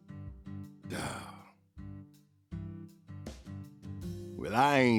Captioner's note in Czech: popuzený povzdech